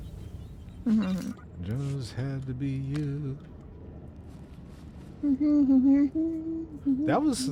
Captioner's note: humming